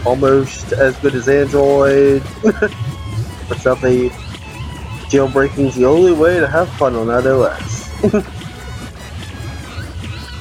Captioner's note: chuckles